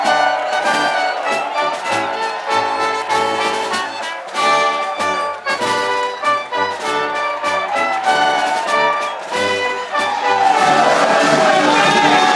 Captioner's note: applause